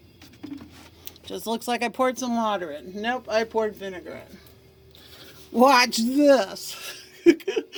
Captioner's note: laughs